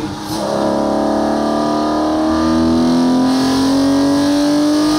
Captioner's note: car engine revving